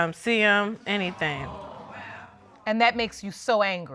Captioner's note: audience exclaiming